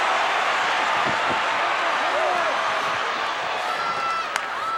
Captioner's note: crowd cheers